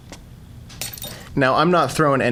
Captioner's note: glass shatters